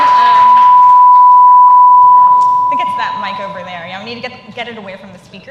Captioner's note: cheers and applause